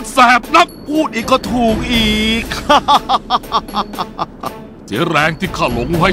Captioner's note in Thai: หัวเราะ